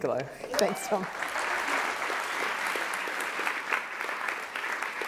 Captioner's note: applause